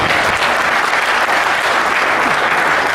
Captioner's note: applause